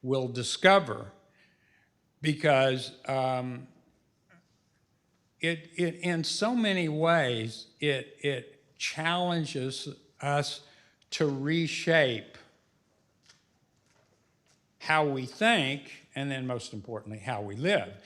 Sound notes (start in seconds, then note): none